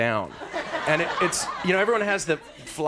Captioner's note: audience laughs